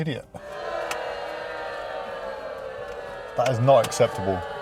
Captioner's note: booing